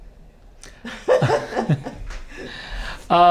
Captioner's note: laughing